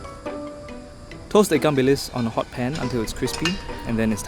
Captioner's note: voiceover